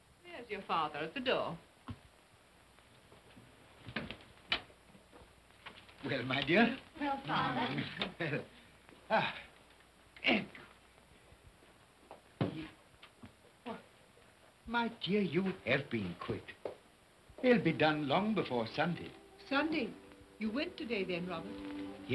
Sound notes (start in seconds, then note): 3.7 door opens; 10.1 Cratchit grunts